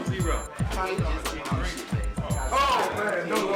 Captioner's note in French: bavardages inaudibles